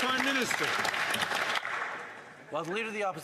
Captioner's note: some Applause